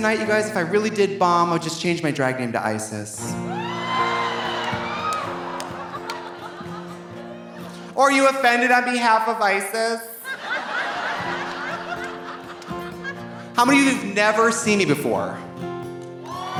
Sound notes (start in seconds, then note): 3.1 gentle guitar music; 3.4 audience cheering; 10.2 audience laughing; 10.9 gentle guitar music; 16.2 audience cheering